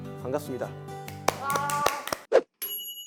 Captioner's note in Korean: 박수